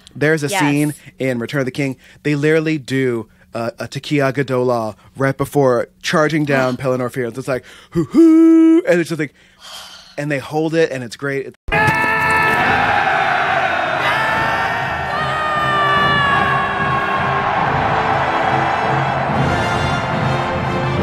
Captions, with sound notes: there's a scene in “Return of the King.” They literally do a tekiah gedolah right before charging down Pelennor Fields, like, “Hoo-hoo!" and it's just like, and they hold it and it's great. [Shouting]